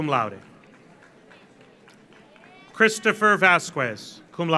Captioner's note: audience applauds